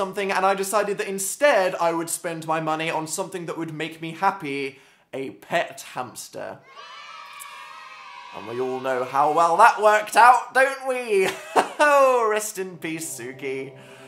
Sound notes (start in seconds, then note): 6.6 cheering sound effect; 11.2 nervous laugh